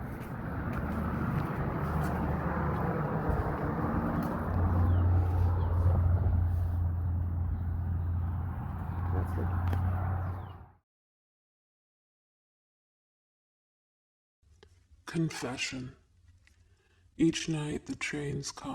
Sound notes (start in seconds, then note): 0.0 an airplane overhead